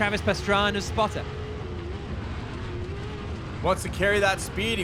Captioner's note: truck engine revving